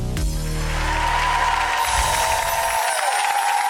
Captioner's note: applause